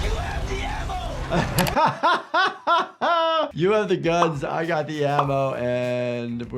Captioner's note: laughs